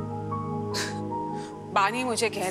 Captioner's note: Poonam chuckles